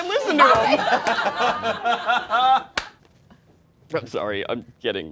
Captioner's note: all laughing